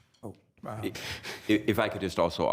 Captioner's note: laughs